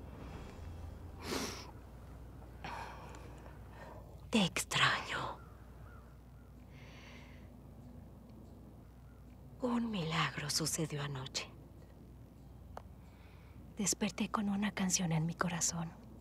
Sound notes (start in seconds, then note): 1.2 se sorbe la nariz